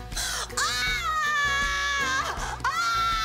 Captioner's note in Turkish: Bağırıyor